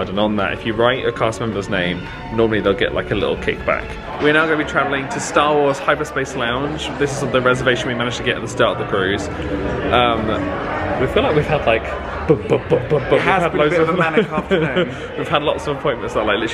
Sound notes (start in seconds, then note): 12.4 mimics banging